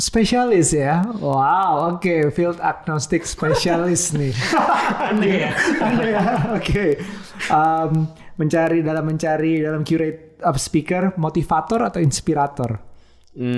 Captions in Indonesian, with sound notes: Spesialis ya, wow, ok, spesialis agnostik lapangan nih. [tertawa] Mencari dalam membimbing dari pembicara / pemberi inspirasi?